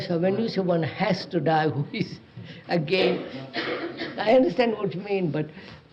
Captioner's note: laughs